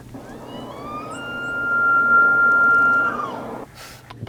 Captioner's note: elk bugles